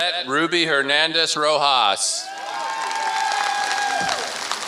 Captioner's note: applause